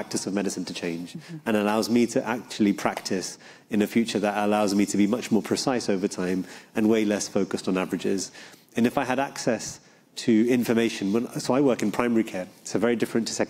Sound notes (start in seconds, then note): none